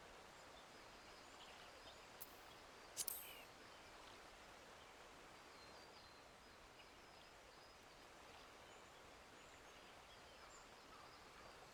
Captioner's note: birds chirping